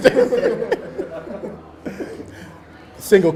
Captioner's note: laughs